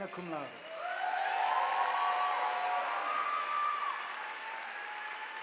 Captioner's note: audience applauding